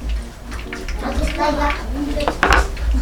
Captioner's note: children's sounds